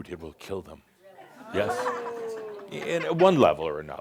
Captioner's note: audience says “Ohh!”